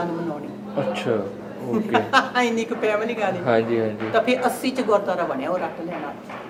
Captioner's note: laughs